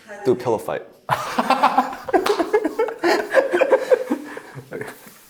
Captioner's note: both laughing